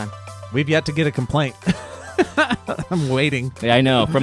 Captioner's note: laughs